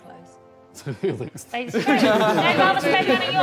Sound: all laughing

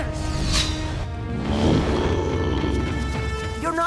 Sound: Appa grunting

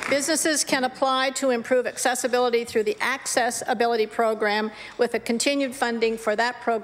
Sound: applause

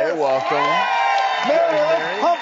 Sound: cheering

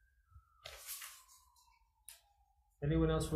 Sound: papers rustling

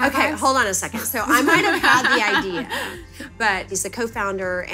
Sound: laughing

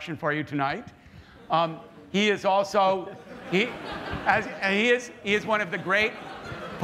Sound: laughter

